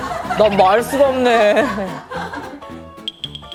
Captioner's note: hahaha